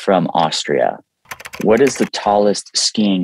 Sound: keyboard clicking

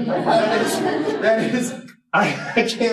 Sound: laughter

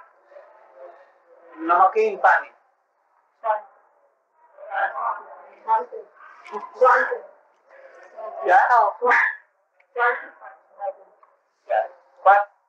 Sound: Hindi

